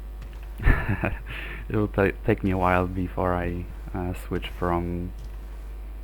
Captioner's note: chuckles